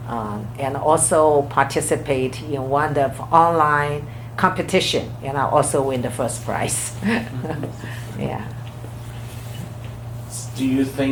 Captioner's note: laughs